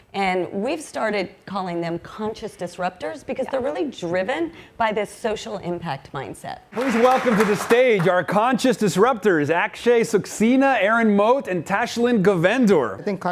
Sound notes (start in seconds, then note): 6.7 audience applauds